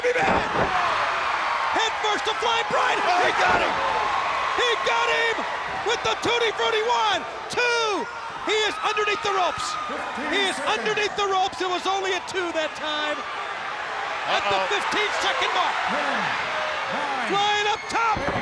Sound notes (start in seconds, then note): 0.2 body thudding; 0.3 crowd cheering; 2.6 blows thudding; 4.2 body thudding; 7.6 hands thudding; 15.3 crowd cheering; 17.9 body thudding